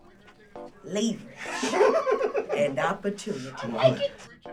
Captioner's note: laughter in the background